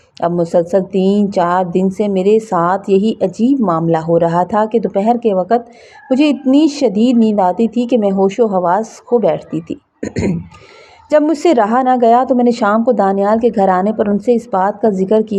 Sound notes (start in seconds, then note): 10.0 clears throat